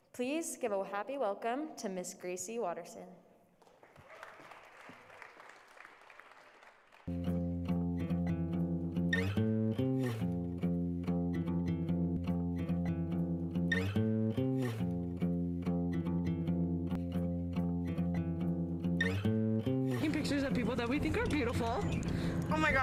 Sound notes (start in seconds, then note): 3.6 applause